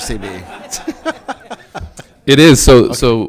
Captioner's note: all laughing